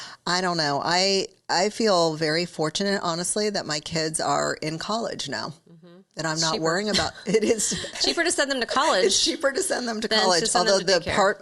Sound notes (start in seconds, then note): 7.9 chuckles